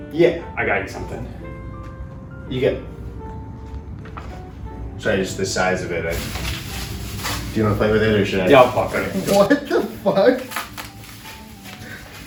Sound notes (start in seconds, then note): 6.1 bag rustles; 12.0 wrapper rustles